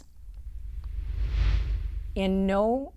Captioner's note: air whooshing